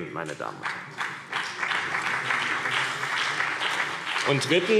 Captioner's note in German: Beifall CDU und BÜNDNIS 90/DIE GRÜNEN